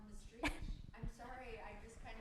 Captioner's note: chuckles